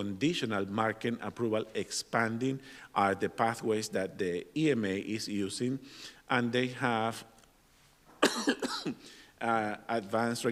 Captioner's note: cough